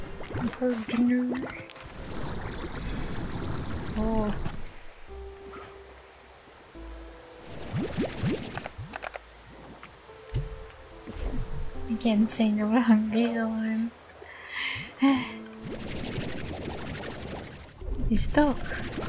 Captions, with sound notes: Par-di-ner Ohhh! I can't say no to hungry slimes (sighs) It's stuck!